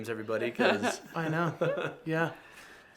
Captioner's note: everyone laughs